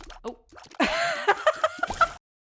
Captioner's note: laughter